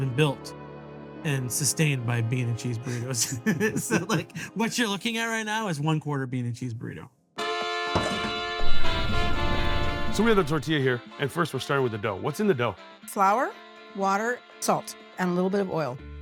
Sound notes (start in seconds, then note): 2.8 laughs; 8.5 tropical upbeat music